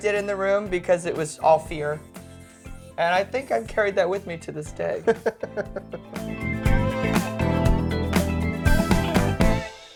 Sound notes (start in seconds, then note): 4.9 laughing; 6.2 upbeat music